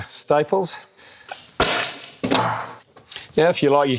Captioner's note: stapling sound